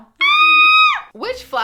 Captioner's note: screams